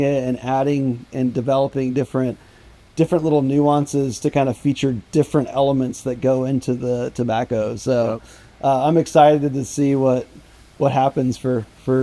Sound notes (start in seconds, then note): none